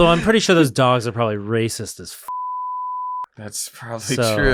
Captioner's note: beep